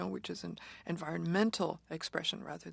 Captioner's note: speaking French